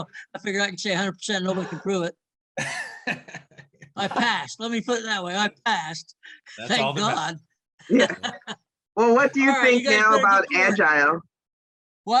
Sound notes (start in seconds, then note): 2.6 laughs; 7.9 laughs